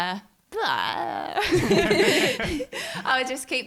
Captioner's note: all laughing